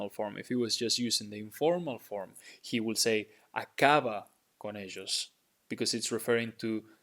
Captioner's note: speaking in Spanish; speaking in Spanish